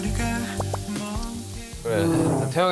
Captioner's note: nom, nom